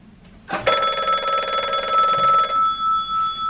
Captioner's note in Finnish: Puhelimen pirinää